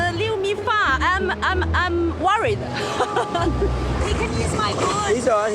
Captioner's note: laughs